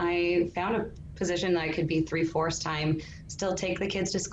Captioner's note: faintly speaking